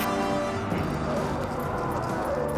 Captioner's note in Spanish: gruñe